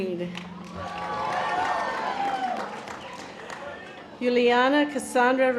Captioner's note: audience applause